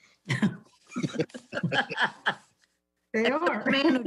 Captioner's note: laughs